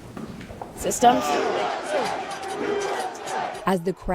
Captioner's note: crowd